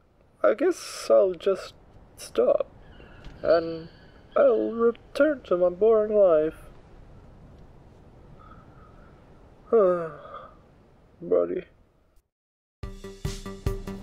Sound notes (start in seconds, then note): 9.7 sigh